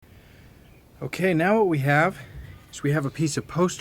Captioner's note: voiceover